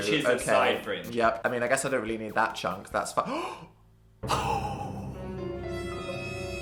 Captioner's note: gasp